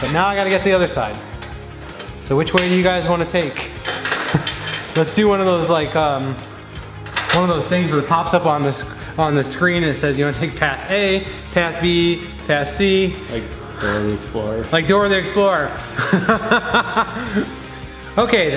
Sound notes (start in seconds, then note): 13.3 voiceover; 15.9 laughs